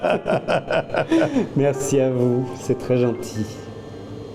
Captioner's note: laughing